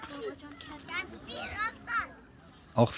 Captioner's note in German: Stimmengewirr